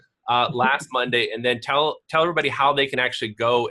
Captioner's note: laughs